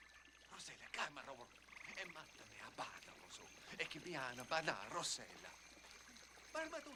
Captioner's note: speaking in illyrian language